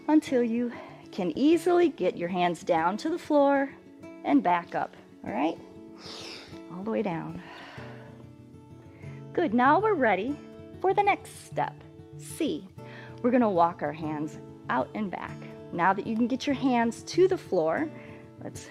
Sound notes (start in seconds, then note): 5.9 exhales